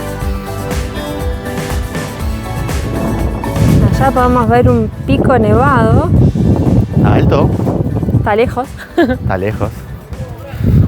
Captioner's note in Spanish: risas